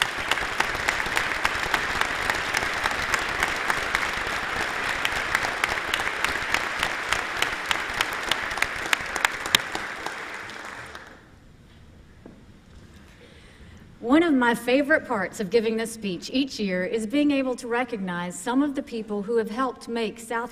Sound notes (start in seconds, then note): 5.4 applause